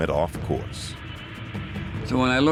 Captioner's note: plane engines whirring